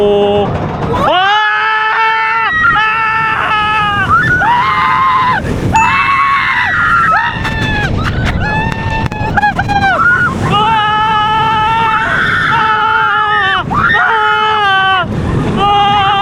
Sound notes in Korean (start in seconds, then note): 0.8 와아아아아; 2.7 아아아아아악